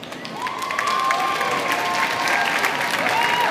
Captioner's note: applause